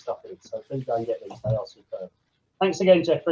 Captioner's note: voice muffling